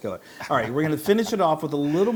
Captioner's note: laugh